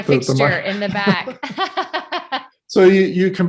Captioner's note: laughs